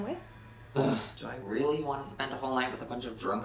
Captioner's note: groans